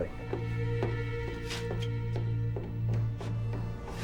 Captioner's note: footsteps descending